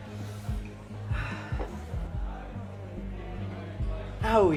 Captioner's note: Calvin sighs